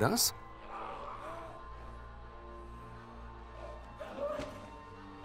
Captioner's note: groaning, gurgling